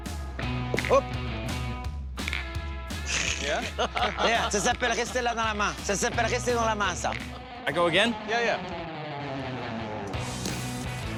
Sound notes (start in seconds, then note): 3.1 laughter